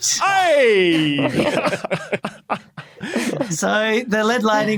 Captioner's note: group laughing